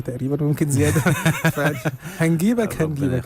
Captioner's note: laughers